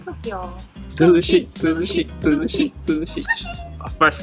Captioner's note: sushi chants